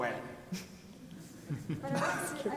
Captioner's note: people laugh